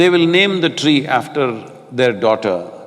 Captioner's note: none